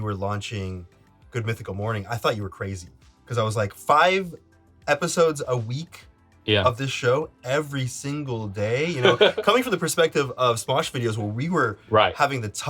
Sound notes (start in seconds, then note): 10.4 Link laughs